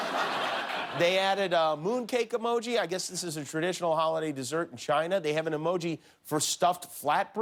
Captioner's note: laughter